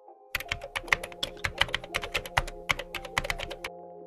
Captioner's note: typing